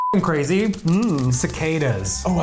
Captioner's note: humming